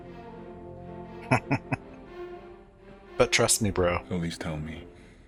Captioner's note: chuckling